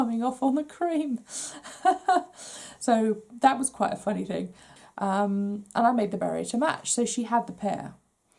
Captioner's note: laughs